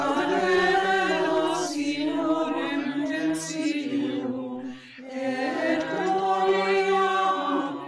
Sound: group chants in Latin

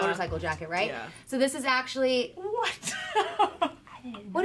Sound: laughing

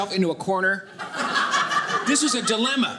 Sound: audience laughing

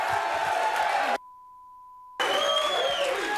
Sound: beep; audience cheering

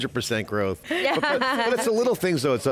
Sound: laughter

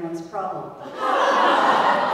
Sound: laugh

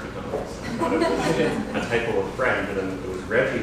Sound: laughter

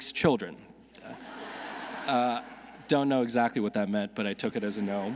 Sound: audience laughing

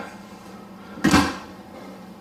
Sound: slamming sound

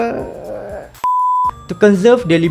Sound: beep

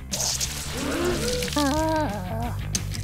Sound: sighs

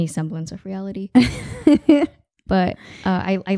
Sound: laughing

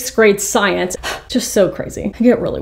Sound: exhales

